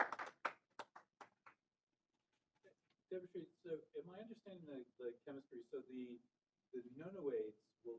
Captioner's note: applause